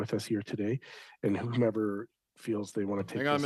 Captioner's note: speaking French